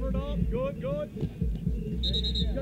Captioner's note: whistle blowing